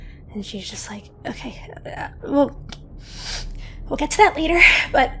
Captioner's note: sniffs